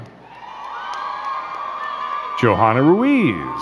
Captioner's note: crowd cheering and clapping